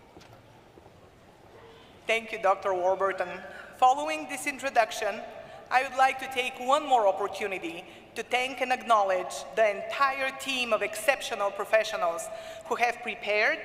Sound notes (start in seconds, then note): none